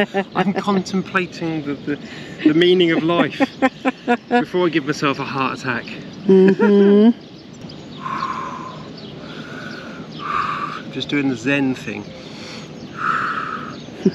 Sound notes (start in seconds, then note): 6.5 laughter; 7.9 deep Breathing